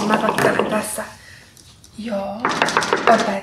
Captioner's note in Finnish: oveen koputetaan